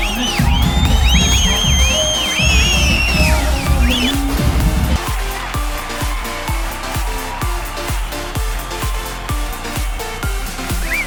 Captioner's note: applause